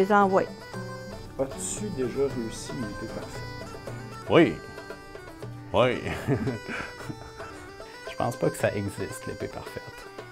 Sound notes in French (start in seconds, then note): 6.0 rigolant